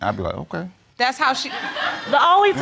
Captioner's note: audience laughing